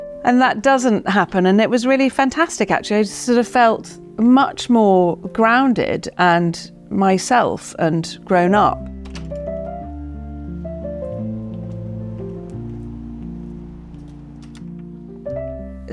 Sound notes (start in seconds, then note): 8.8 gate latch clicks; 10.4 gentle piano music continues